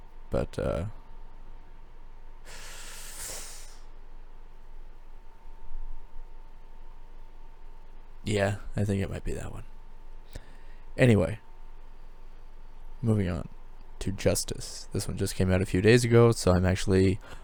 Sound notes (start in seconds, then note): 2.4 inhales